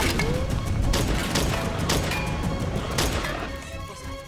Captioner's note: bullets ricocheting